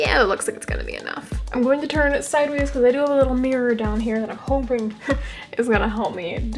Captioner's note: laugh